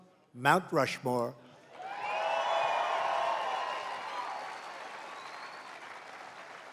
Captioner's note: applause